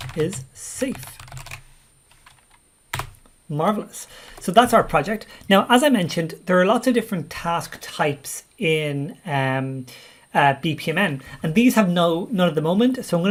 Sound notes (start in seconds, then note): 0.9 keyboard keys clank